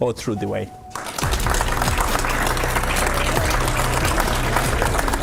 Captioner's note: audience applauding